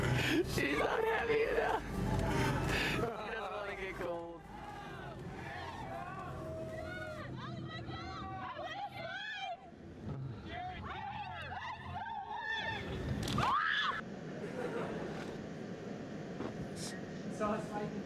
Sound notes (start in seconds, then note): 0.0 laughs; 8.1 yelling